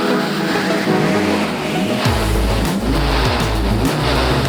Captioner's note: engine roars; engine revs